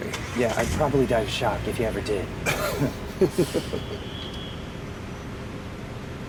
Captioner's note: laughing